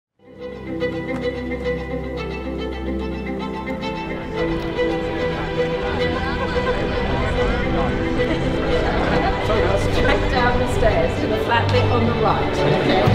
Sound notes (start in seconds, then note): 0.0 bright music; 4.5 excited chatter